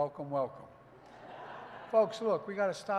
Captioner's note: laughter